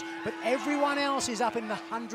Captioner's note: bell ringing